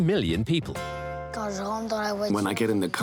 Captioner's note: child speaking foreign language